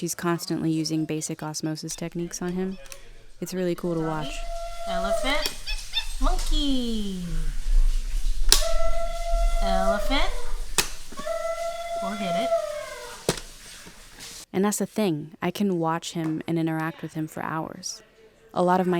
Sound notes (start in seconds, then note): 5.3 toy whirring and making animal noises; 7.5 toy making elephant noises; 11.4 baby slams toy